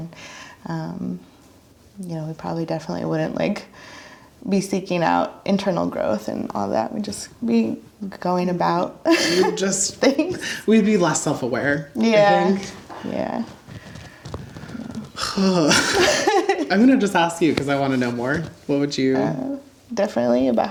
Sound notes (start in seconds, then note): 10.7 laughs; 14.8 laughs; 15.6 sighs